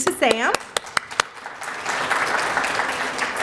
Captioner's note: applause